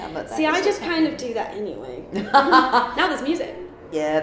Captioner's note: laughs